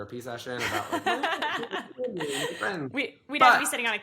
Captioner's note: laughs